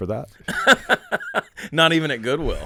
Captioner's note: laughing